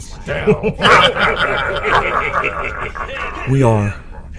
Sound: Klingon laughter, chants of "pin him"

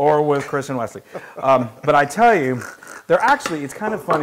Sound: laugh

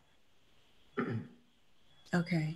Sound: clears throat

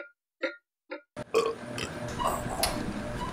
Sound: burps

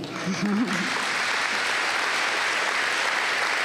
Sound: applause

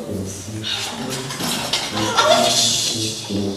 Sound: clanging

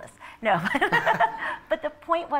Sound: laughter

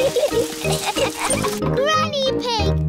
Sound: laughter

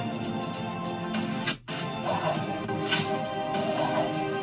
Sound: web Blasting Sound

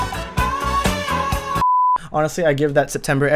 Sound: beeep

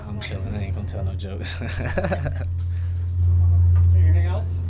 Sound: laughing

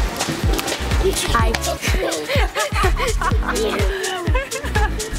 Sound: laughing

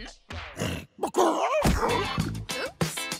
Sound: squawks

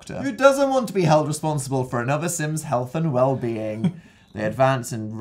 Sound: sarcastic reading; laughs

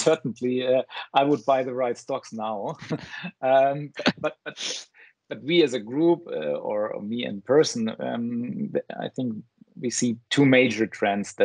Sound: laughs

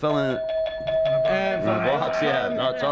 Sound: bell rings

